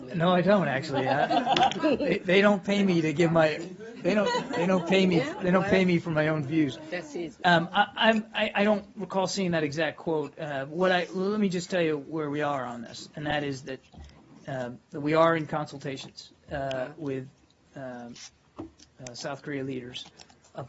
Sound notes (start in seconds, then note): 0.8 laughter; 3.9 laughter